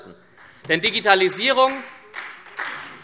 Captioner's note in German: Beifall SPD und vereinzelt Freie Demokraten